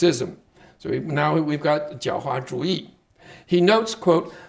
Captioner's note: speaking Chinese